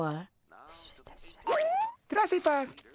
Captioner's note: whispers